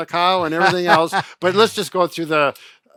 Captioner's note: laughing